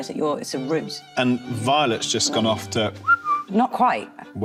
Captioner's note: whistling